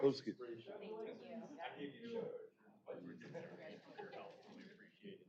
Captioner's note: off-mic chatter